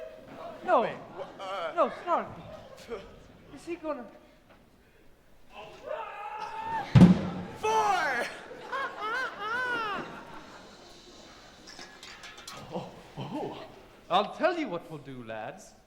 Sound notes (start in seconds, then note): 7.5 Peter crows